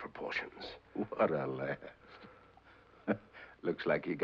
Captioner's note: chuckles